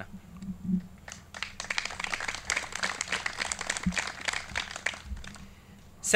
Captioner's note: clapping